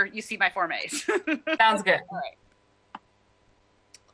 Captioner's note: laughter